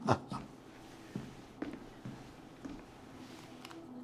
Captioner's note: Jesse and Florio chuckle; the sound of steps on the floor